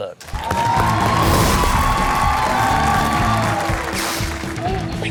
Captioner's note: crowd cheering and applauding